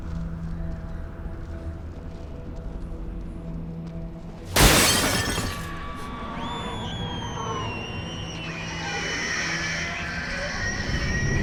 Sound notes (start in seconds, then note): 4.5 glass shatters; 5.8 screeching demonically